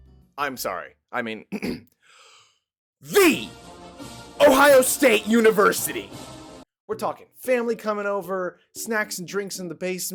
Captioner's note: inhale